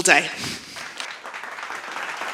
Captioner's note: clapping